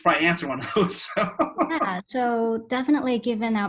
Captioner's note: laugh